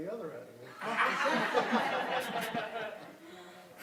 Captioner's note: laughter